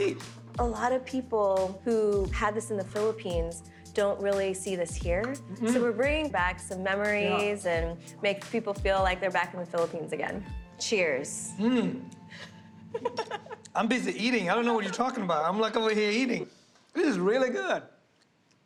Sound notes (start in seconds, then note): 12.9 laughs